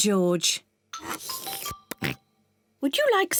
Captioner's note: slurps